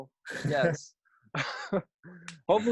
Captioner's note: laughs